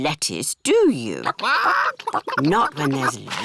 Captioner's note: chickens chatter